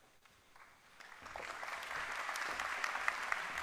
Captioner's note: applause